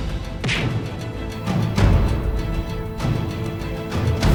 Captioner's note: punch thudding